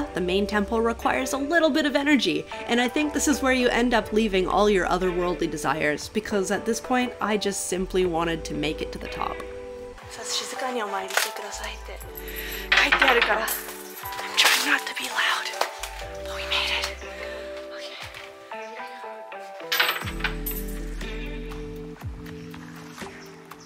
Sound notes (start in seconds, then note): 10.6 speaking Japanese; 20.4 lighthearted music